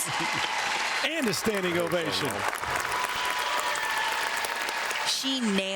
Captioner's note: cheers and applause